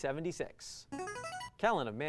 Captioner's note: buzzer